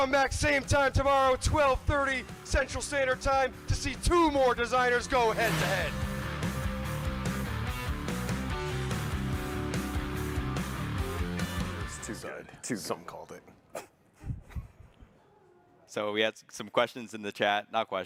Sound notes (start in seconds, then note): 6.1 engine whooshes and revs; 7.0 upbeat rock music